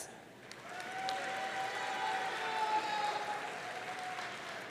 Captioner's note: audience cheering